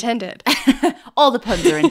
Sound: laughing

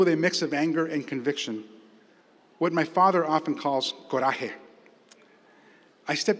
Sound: spanish

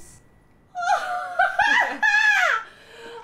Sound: triumphant laughter

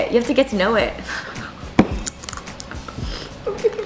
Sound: laughs

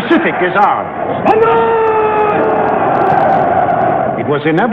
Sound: crowd shouting

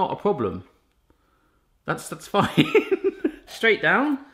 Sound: laughs

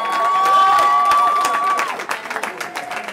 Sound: cheering

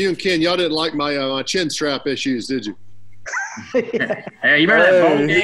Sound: laughter

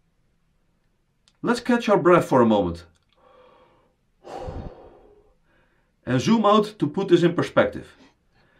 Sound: audibly exhales

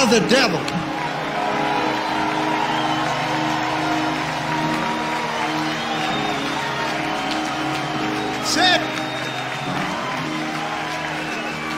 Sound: audience cheers and applauds

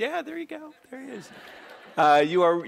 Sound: laughing

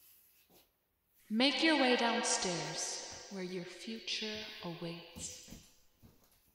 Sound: disembodies voice

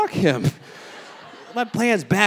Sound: audience laughing

